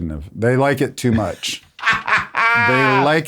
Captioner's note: laughs